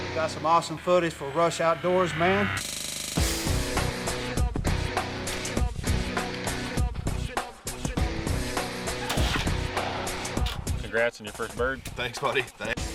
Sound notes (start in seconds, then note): 3.2 country rock music; 9.0 weapon firing